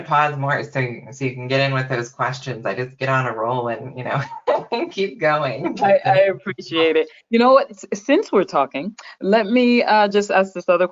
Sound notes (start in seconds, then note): 3.8 laughing